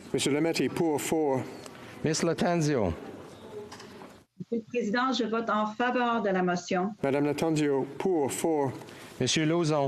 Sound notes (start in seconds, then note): 1.2 speaking FRENCH